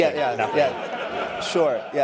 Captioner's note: laughter